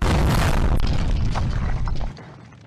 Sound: boom!

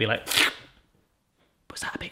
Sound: makes sticky noise

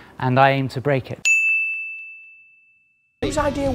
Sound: bell ding

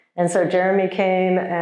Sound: none

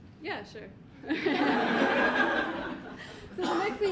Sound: audience laughing

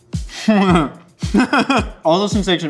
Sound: laughs

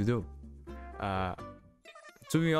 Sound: uhhh

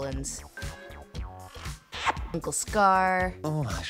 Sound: villain makes kissing sound

